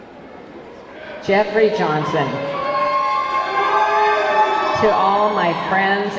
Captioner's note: audience clamoring